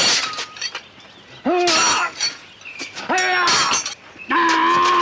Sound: man screams

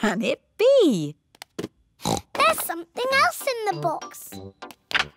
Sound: oinks

